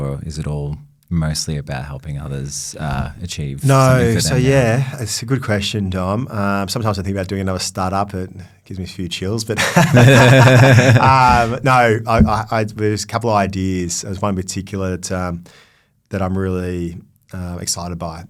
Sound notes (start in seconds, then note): 9.6 laughing; 9.6 laughs